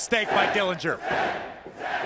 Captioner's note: fans chanting